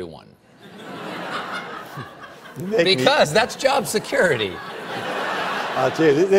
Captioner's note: laughter